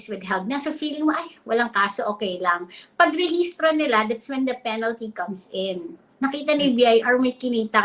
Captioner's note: speaks in Filipino